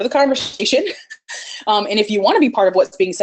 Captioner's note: laughs